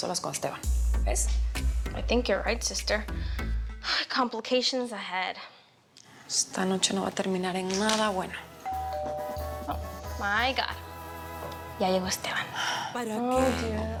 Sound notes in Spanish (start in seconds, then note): 8.6 Timbre de la puerta